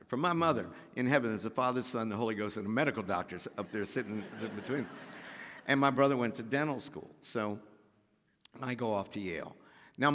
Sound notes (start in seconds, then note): 3.6 audience laughs